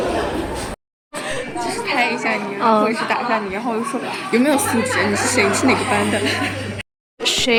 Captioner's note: gossiping